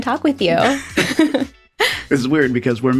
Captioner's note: both chuckling